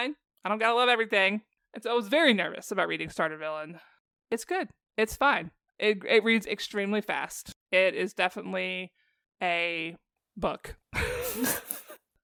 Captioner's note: laughter